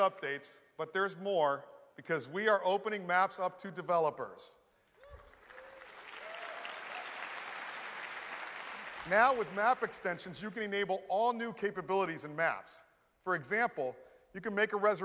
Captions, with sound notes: more because we are opening Maps up to developers. (Applause) Now with map extensions, you can enable all new capabilities in Maps. For example, you can make a reservation using a